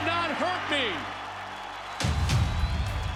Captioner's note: crowd cheering